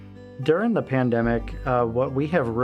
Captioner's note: none